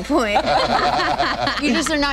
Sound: laughing

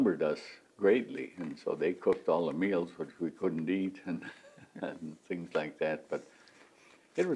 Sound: laughs

